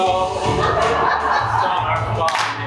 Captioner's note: audience laughs